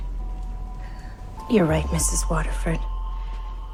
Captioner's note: voiceover